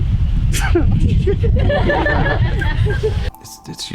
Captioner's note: laughing